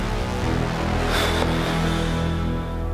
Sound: sighs

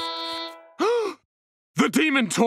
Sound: gasping

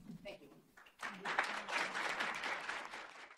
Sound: applause

